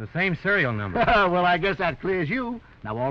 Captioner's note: chuckles